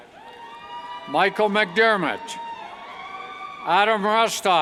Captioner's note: cheers